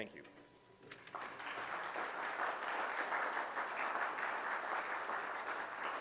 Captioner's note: audience applause